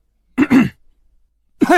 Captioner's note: cough cough